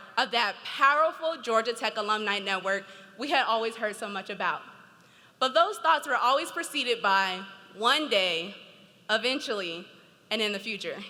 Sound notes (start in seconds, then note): none